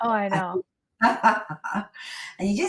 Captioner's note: laughs